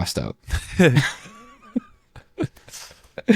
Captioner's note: laughing